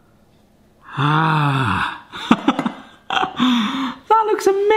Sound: laughs

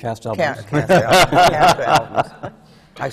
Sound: laughter

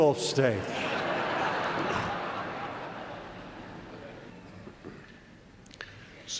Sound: laugh

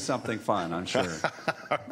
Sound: laughter

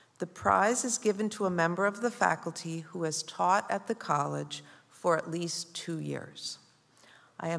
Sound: none

